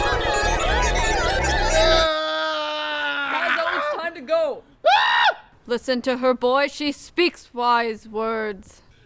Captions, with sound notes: -[screaming] -Lazo, it's time to go! [screams] Listen to her, boy! She speaks wise words!